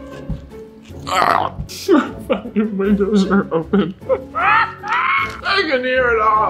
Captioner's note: mumbling with full mouth